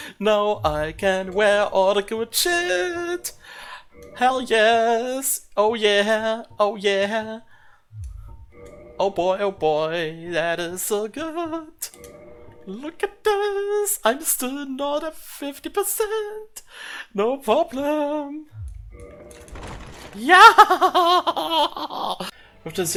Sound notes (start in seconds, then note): 20.3 ecstatic Laugh